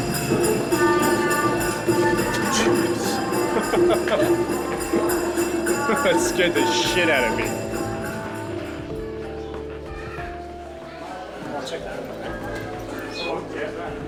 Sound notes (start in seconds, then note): 3.9 laughing